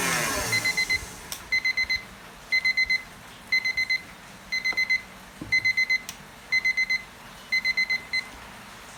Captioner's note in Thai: เสียงนาฬิกาจับเวลาดัง